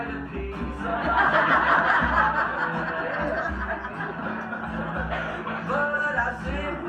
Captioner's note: crowd laughs